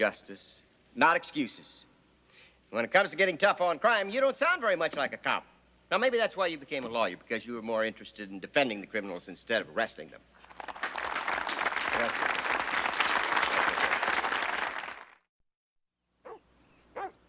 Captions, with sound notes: My office is interested in truth and justice, not excuses. And when it comes to getting tough on crime, you don't sound very much like a cop. So maybe that's why you became a lawyer, because you were more interested in defending the criminals instead of arresting them. [applause] Thank you.